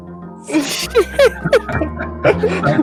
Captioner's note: laughter